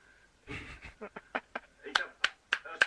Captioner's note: laughs, claps and whistles